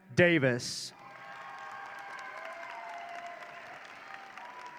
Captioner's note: audience cheering